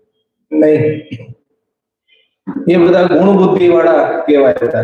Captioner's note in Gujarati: ગળું સાફ કરે છે